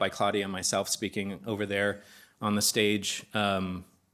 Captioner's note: none